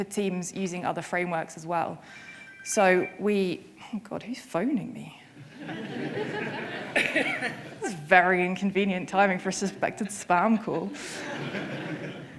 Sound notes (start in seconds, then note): 5.4 audience laughing